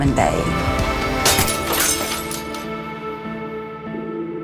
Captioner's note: shattering glass